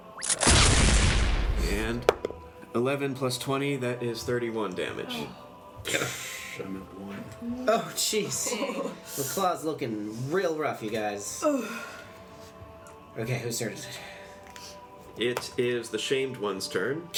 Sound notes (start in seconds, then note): 0.2 blaster sound; 1.8 dice roll; 5.0 Ping Pong sighs exasperatedly